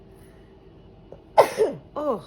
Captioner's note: sneezes